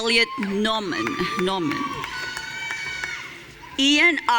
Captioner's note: audience cheering